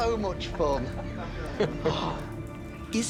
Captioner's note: chuckling